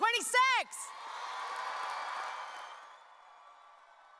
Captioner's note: audience cheering